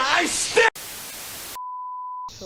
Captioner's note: static